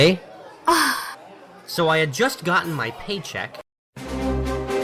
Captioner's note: sigh